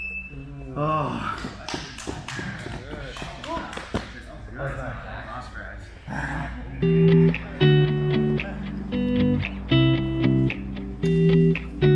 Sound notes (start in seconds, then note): 0.0 alarm beeps; 1.7 spectators applaud; 6.5 spectators chatter; 8.7 gentle music